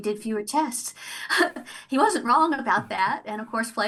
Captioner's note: chuckles